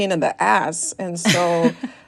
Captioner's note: laughter